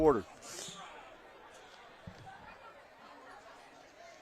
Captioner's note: laughter